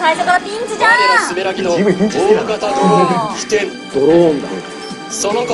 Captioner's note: drone